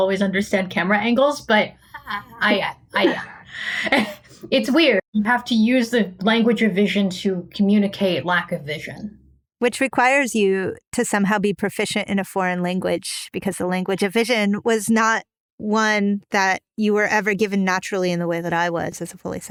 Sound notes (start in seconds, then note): 1.9 laughing